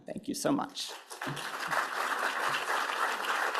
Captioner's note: applause